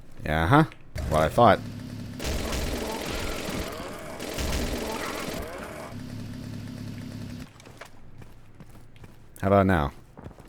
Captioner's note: even moar motorized mayhem